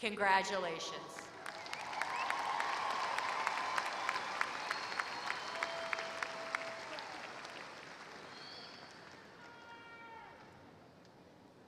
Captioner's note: applause